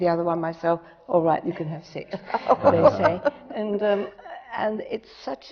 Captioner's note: laughter